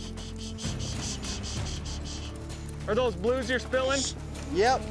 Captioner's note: makes shushing sound